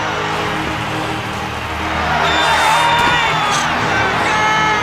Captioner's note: cheers and applause